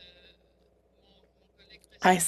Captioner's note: speaking French